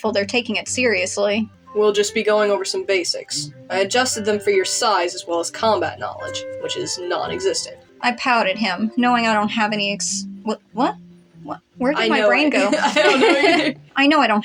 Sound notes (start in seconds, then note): 12.2 laugh